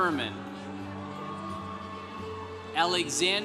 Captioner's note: congregation cheering